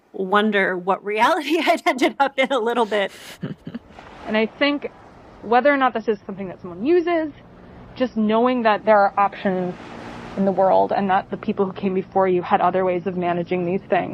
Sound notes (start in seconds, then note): 0.0 starting to laugh; 2.7 chuckles